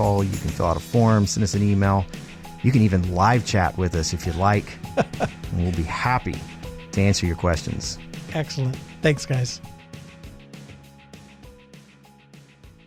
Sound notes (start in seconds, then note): 4.9 laughs; 10.0 calming music